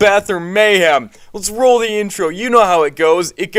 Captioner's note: breath